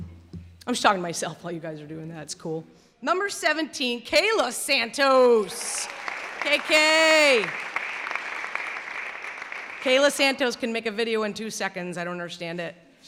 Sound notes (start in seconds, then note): 5.0 clapping